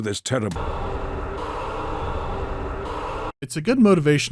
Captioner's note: sound effects are looping abruptly